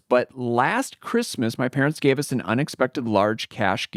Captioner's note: none